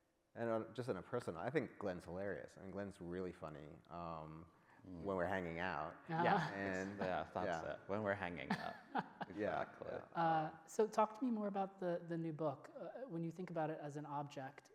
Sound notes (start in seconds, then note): 8.5 laughs